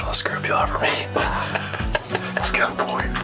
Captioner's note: laughs